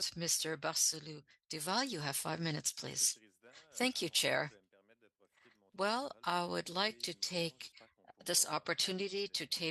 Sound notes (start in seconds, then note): 2.6 speaking French